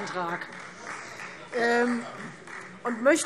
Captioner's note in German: Beifall Freie Demokraten